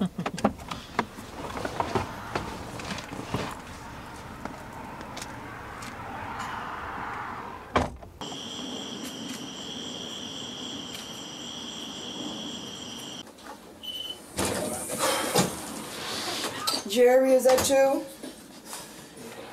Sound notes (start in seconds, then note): 0.0 Kerri laughing sarcastically; 8.1 crickets chirping; 13.8 door alarm beeps